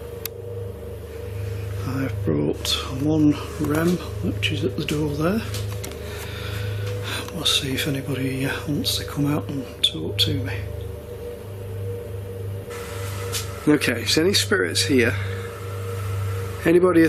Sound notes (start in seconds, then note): none